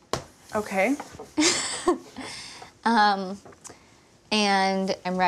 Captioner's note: laughs